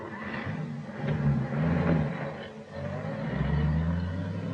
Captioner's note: engine revving